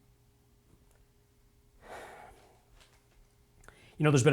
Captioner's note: sighs